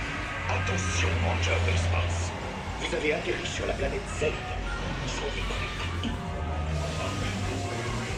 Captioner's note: Buzz repeats himself in French